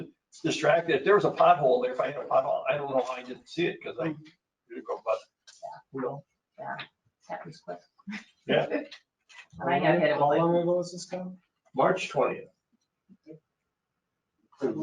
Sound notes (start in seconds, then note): 5.4 speaking faintly